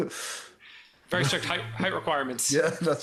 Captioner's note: laughing